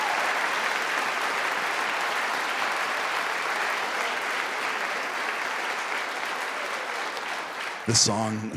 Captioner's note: applause